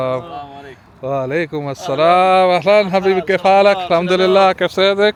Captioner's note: Arabic